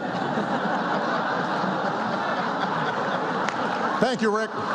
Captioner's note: laughter